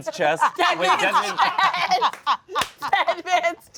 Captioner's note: all laugh